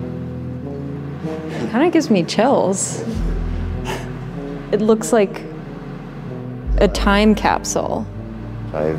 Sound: laughs

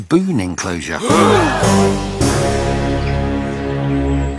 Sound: gasps; dramatic music

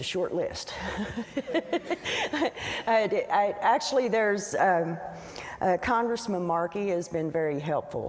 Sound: laughs

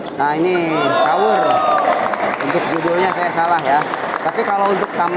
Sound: applause

